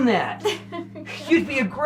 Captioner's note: laughing